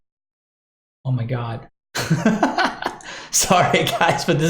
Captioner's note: laughs